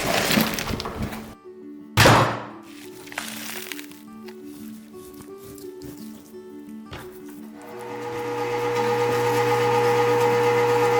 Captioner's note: chopping, rustling, machines whirring, snapping